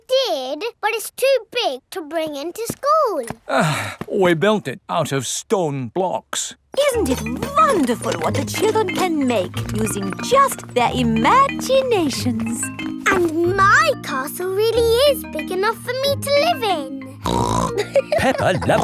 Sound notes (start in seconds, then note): 3.4 sighs; 17.2 snorts and laughs